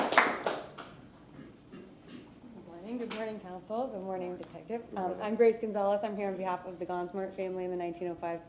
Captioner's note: applause